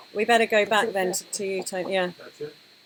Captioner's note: laughing